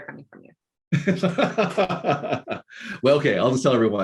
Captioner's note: laughing